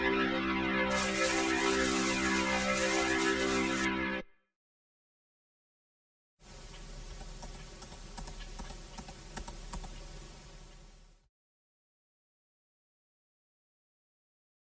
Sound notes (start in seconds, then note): 0.9 static